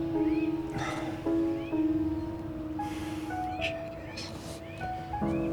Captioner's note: Ulysses sighs